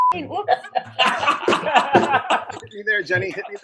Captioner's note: laughing